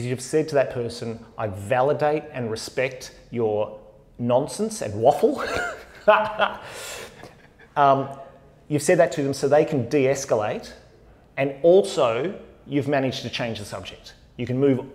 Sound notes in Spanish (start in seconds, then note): 5.3 risas